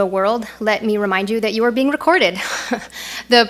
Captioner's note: laughs